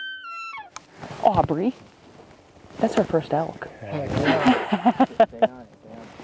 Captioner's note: laughs